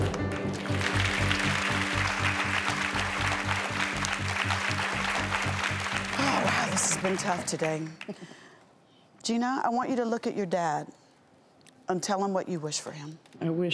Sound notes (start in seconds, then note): 0.0 dramatic music; 0.0 applause; 8.0 chuckles